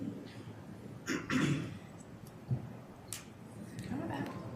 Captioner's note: cough